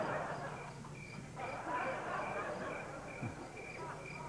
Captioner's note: crickets chirping